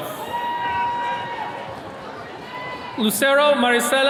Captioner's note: attendees cheering